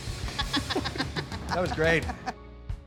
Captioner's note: laughs